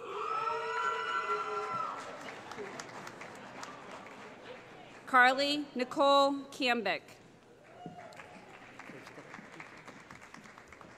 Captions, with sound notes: [ Cheering ] Carly Nicole Kambic [ Applause ]